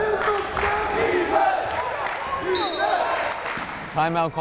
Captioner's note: crowd chanting defense